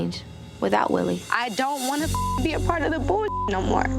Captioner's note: beep